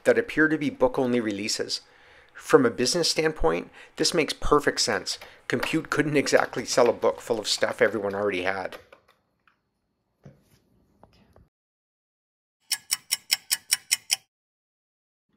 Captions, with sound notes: that appear to be book-only releases. From a business standpoint, this makes perfect sense. COMPUTE! couldn’t exactly sell a book full of stuff everyone already had. [sound of a ticking clock]